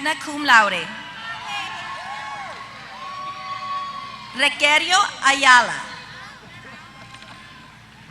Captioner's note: applause